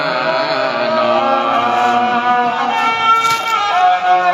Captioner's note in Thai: ปรบมือ